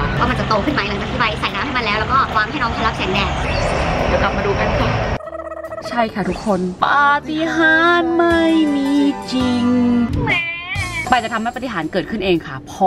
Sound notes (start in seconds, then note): 10.2 baby crying